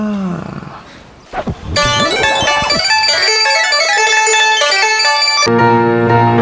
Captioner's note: rewind whirrs